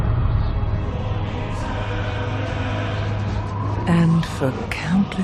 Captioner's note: chanting